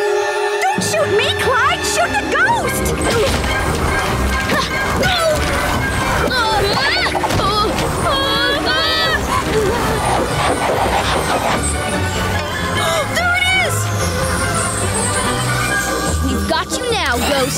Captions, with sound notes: Don't shoot me, Clyde, shoot the ghost! [grunting] [screaming] [gasping] There it is! We've got you now, ghost.